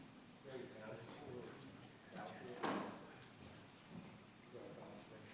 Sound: people chattering

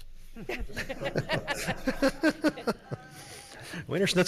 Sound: audience laughs

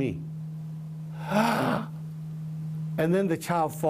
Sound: gasps

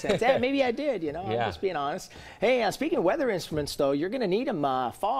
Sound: laughter

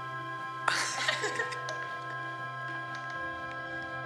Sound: laughter

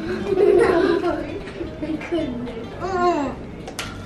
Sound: giggles

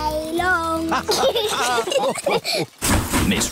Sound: laughter

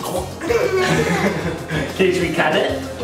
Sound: giggles

